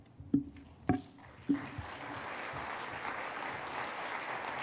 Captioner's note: applause